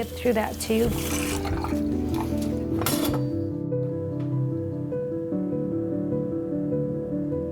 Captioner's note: somber music; water gurgling